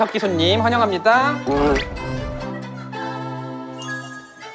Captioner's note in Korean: 촤라락